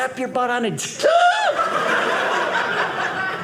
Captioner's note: scream; audience laughing